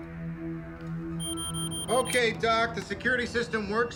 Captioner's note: alarm beeping